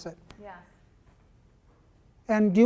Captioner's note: voiceover